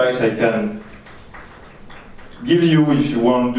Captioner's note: audience clapping